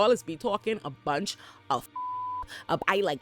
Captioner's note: beep